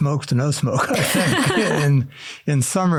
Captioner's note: laughter